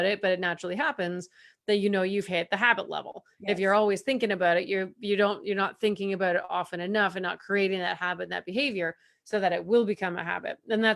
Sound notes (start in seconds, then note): none